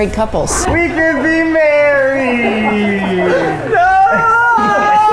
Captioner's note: laughing